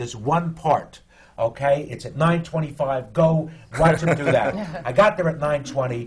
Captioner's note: laughs